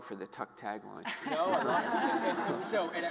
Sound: all laughing

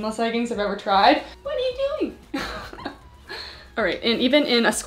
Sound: laughs

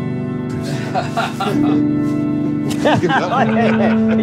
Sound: laughs

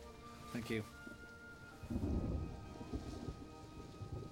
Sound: thunder rumbling

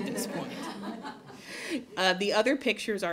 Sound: laughter

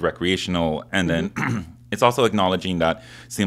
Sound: clears throat

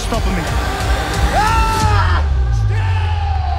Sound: dramatic music; Volkanovski yells

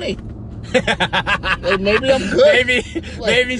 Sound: laughing

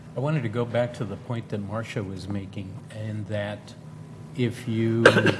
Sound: cough

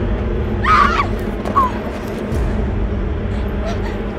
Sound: Morgan screams

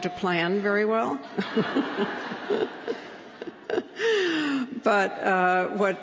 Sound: laughter

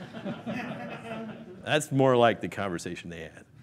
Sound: laughing

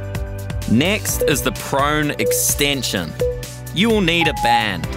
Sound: timer beeping

